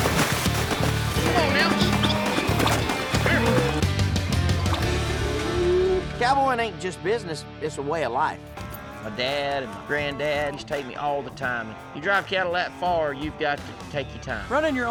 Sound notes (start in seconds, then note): 0.0 splashing; 1.7 whistling